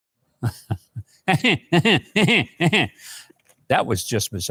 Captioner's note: Mike laughing